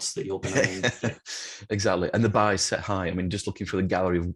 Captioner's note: laughs